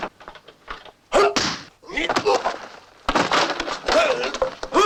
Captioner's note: grunting